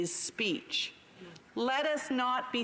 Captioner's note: speaking Indigenous Language